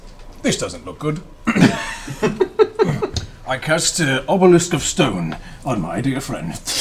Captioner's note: fshh